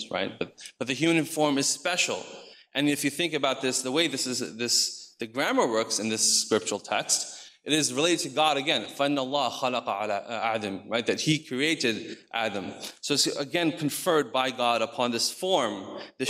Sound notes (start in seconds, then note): 9.1 speaks in foreign language